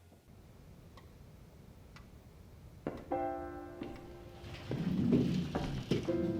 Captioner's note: clock ticking